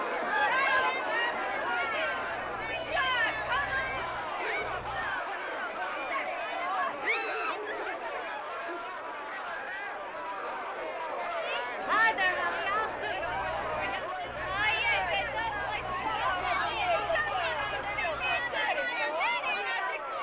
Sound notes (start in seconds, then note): 1.4 women teasing & shouting; 8.2 jovial crowd commotion; 20.0 jovial crowd commotion